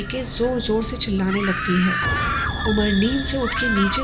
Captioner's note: saira screaming